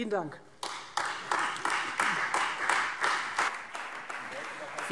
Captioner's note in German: Beifall Freie Demokraten, SPD und AfD